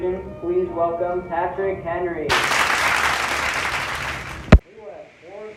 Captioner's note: applause